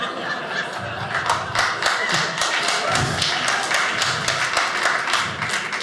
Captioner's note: audience laughing; audience applauding